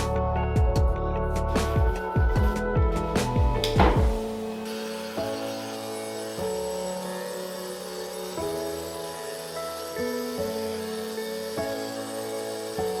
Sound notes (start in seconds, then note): 3.2 door slamming; 4.8 drilling